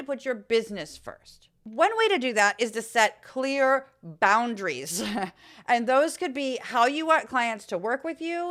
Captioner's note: laugh